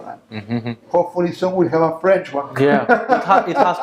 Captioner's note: laughing